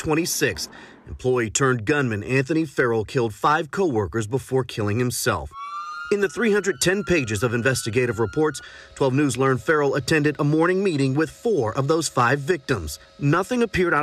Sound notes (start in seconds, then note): 0.9 sirens